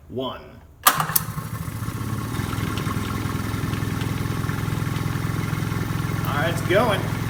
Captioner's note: switch clicks, pump growls